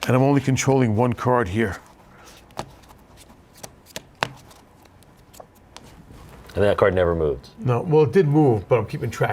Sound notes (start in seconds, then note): 3.4 cards flicking